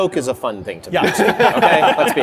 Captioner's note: laughter